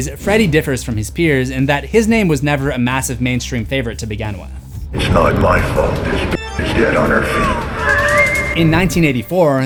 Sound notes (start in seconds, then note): 8.2 laughs